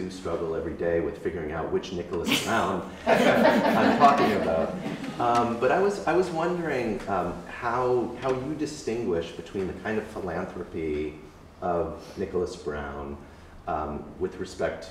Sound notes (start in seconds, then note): 2.9 laughter